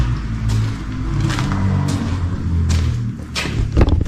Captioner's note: car noises